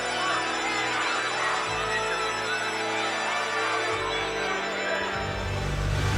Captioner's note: applause